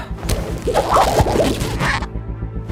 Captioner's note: rubbery squeaking